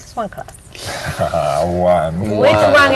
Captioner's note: chuckles